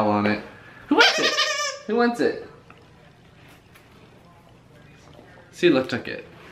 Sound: squeaking noises

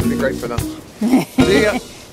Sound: camerawoman chuckles

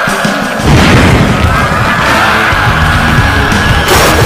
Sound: pyro hits; Plankton screaming

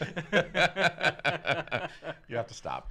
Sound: laughs

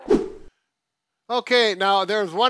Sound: air whooshes

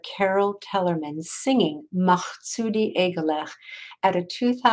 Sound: speaking in foreign language

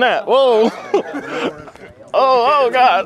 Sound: laughing

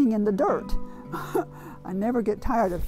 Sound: laughing

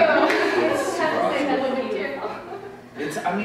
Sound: murmurs of agreement

